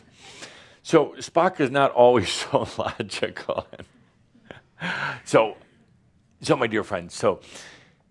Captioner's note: Adamus chuckles